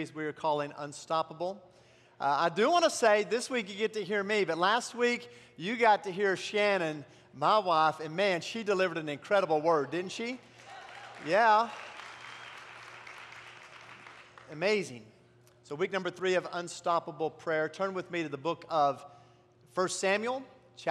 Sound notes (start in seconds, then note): 10.5 applause